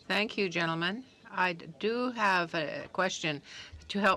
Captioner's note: speaking French